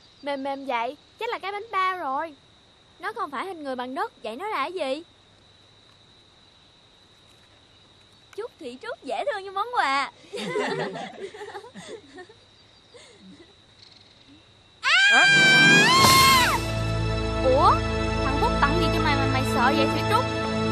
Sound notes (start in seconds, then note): 10.2 laughing; 14.8 scream